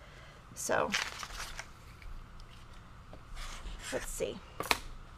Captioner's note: paper rustling